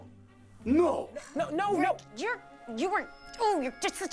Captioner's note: stammering